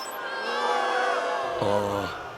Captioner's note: crowd boos